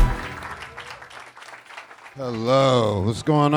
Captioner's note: audience clapping